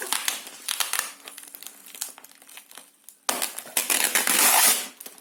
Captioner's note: Nice heart-rending sound of Chinese scotch tape